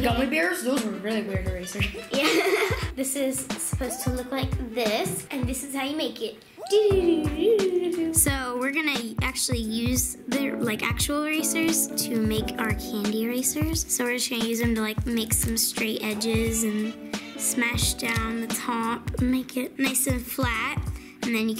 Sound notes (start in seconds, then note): 1.6 laughs